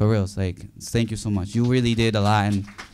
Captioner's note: audience applauding